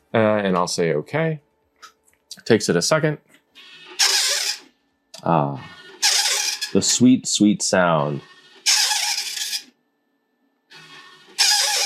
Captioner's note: printer sounds